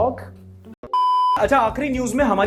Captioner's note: beep